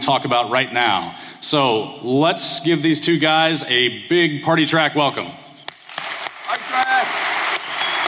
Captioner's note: applause